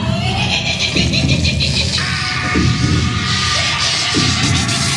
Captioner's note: character laughing